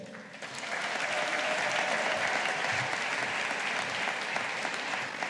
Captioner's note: audience applauding